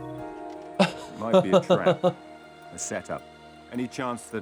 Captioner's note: laughs